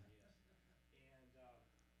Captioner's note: voiceover